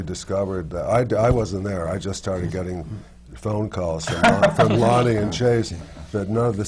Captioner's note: laughter from the panel